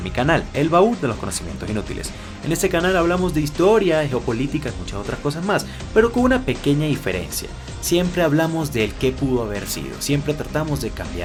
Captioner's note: Spanish